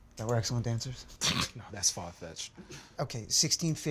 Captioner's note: laughing